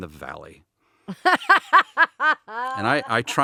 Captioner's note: laughing